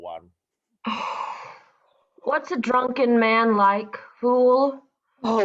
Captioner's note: exhales